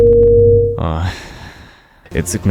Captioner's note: A suicidal sigh